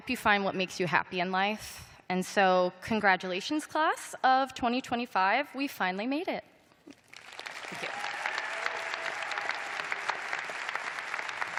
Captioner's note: cheers and applause